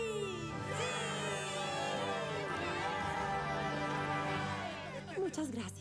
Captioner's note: cheers